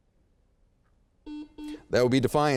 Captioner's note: beep